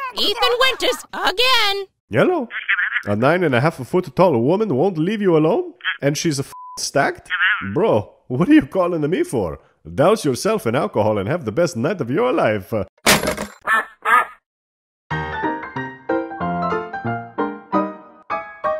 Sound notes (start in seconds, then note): 6.6 beep; 12.8 phone hanging up; 13.7 duck quacks